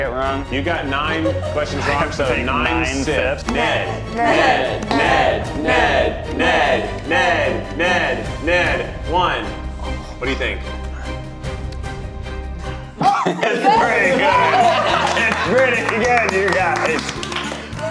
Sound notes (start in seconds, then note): 13.0 cast laughs; 16.8 upbeat music